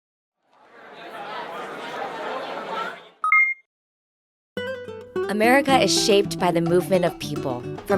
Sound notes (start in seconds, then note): 0.6 people chattering; 3.2 graphic pings